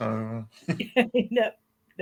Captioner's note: laughs